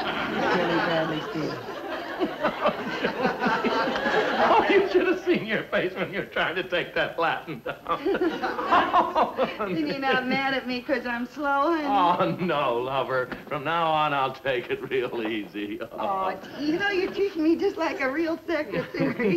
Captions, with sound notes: (hysterical laughter) - You should've seen your face when you're trying to take that Latin down. (laughing) - Mad at me 'cause I'm slow? - Oh no lover, from now on I'll take it real easy. - You know you treat me just like a real thick...